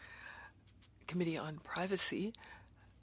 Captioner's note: speaking French